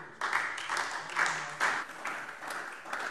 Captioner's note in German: Anhaltender Beifall SPD - Beifall DIE LINKE